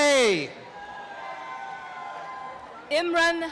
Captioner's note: applause and cheering